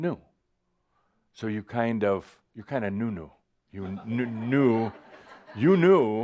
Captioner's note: some chuckles